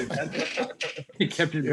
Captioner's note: laughing